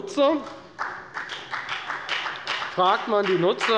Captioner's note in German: Beifall bei der FDP